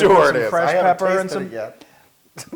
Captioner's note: laugh